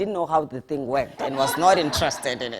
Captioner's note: audience laughing